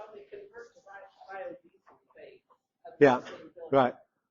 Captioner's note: indistinct chatter